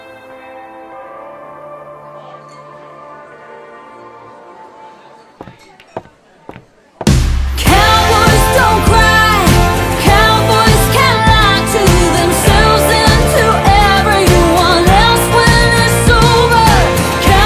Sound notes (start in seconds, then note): 5.4 person walking